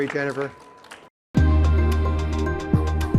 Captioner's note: audience applauding; upbeat music